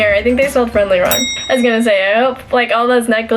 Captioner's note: bell ring